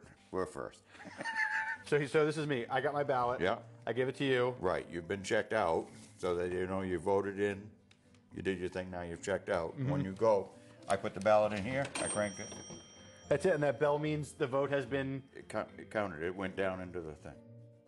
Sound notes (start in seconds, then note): 0.9 laughter; 11.9 bell dinging